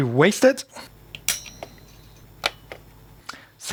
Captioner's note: bell dings